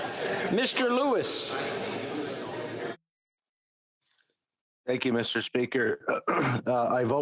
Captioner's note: speaking French